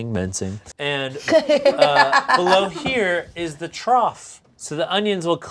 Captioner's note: laughing